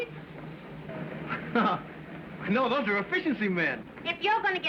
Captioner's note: chuckles